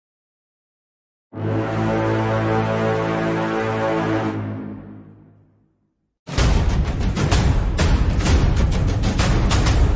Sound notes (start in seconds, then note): 1.4 war Horn; 6.3 war Drums